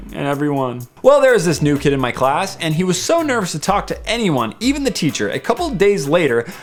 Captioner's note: nervous